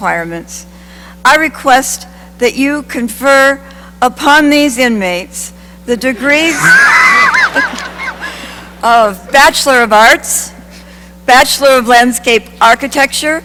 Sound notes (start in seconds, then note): 6.5 laughter